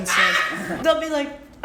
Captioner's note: laughs